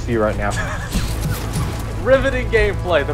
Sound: laughing

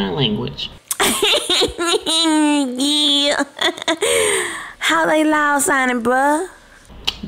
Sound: laughing

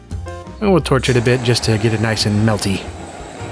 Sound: blowtorch sounds

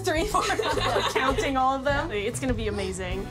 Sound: laughs

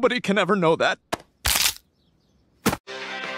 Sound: bone cracking

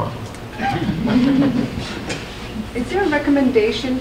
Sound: group chuckles

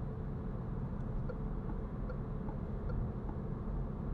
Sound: turn signal clicking

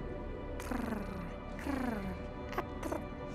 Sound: purring

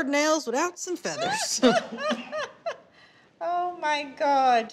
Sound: laughter

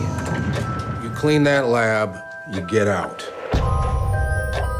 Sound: sternly; low drum hit as the screen cuts to black

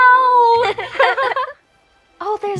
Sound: everyone laughs

